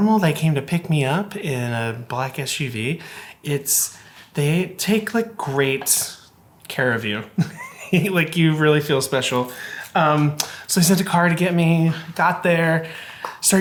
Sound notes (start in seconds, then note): 7.3 laughing